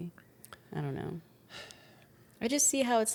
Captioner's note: sighs